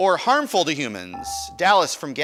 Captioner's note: buzzer dinging